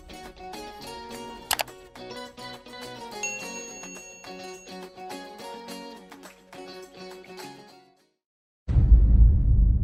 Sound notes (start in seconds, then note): 1.5 mouse clicking; 3.2 bell dinging